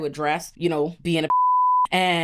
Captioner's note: beep